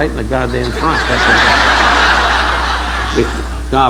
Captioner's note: audience laughing